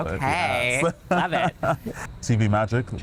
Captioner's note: laughing